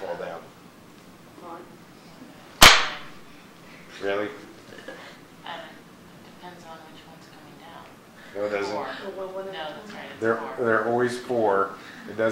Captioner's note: loud pop